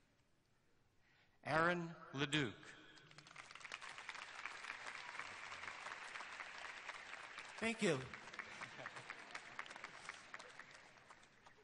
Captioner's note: names being read, applause throughout